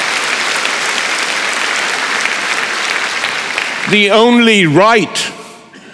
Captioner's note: applause